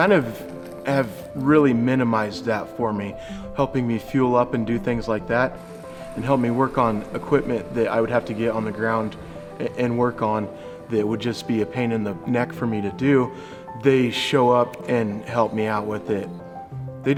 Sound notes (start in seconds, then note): none